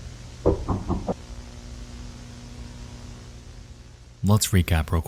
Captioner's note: knocking on door